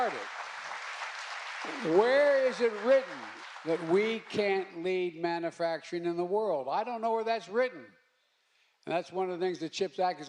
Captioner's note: applause